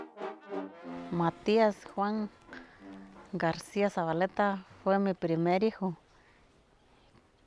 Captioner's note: speaking Spanish